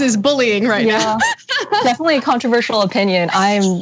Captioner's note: laugh